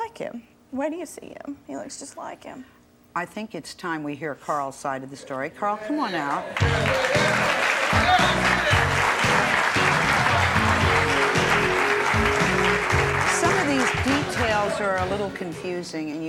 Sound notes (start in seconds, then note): 6.7 jazzy music; 9.1 audience applauding